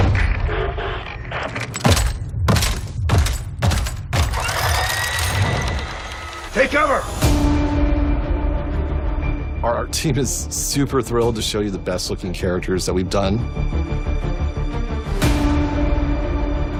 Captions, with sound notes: [heavy footsteps] [gun whirring] Take cover! Our team is super thrilled to show you the best-looking characters that we've done.